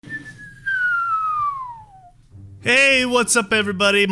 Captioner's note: whistling